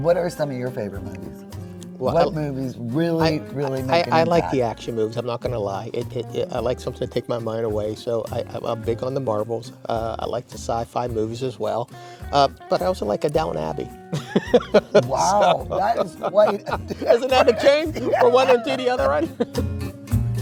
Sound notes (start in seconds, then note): 14.1 laughs